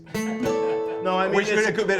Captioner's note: laughs